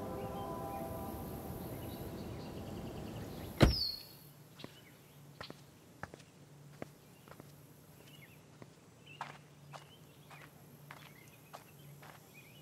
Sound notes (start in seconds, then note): 3.4 birds chirping; 3.5 car door thuds